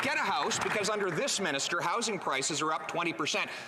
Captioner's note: applause